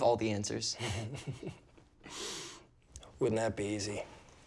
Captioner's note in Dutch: grinnikt